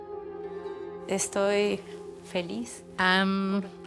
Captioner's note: speaking Spanish